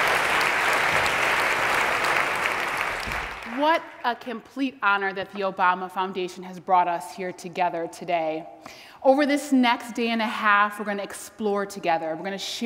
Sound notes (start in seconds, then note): 0.0 applause